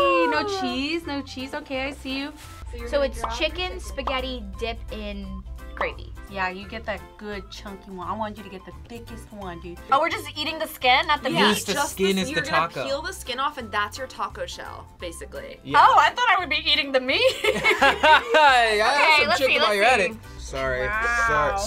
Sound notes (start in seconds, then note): 17.2 both laughing